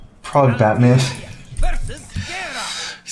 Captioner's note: laughs